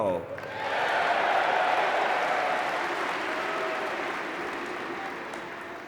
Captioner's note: audience cheering and clapping